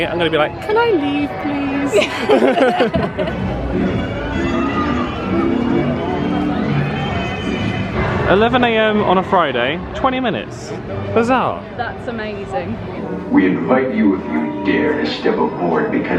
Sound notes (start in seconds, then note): 1.8 laughing; 2.9 cheerful jazzy music